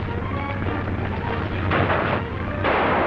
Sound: clattering; thudding; gun firing

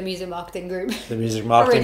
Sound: chuckles

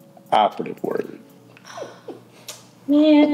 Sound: Heather laughs

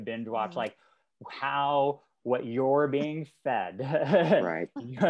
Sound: chuckles

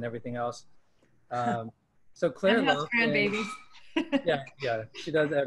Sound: laughter

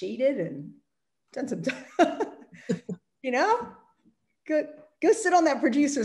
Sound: laughs

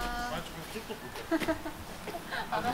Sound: laughing

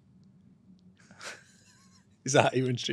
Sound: both laugh

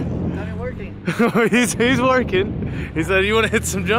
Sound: laughs

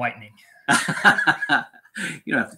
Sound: laughs

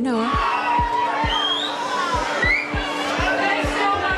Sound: crowd cheering

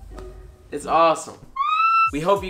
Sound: string piccolo music; screams

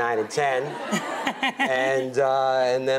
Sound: Rachel laughs

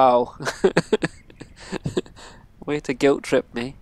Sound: laughs

